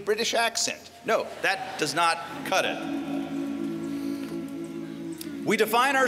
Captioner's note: laughter